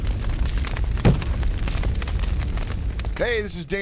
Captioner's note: laughing; kindling crackling